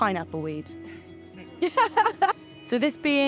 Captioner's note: group laughing